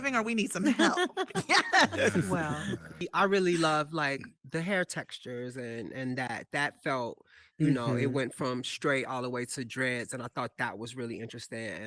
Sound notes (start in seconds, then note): 0.8 panelists laughing